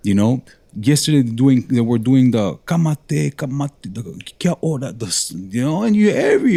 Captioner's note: non-english speech